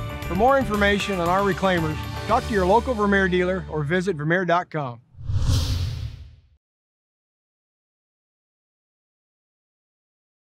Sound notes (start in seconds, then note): 5.1 whooshing